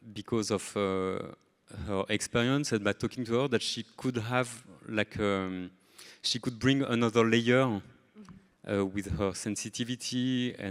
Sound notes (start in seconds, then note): none